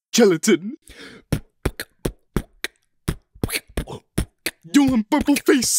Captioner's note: beatboxes